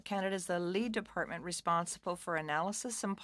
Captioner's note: speaking French